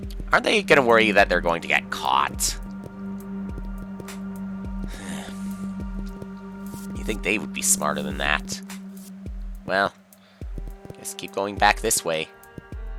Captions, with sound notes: Aren't they gonna worry that they're going to get caught? (*sigh*) You think they would be smarter than that. Well... ...I guess I'll keep going back this way.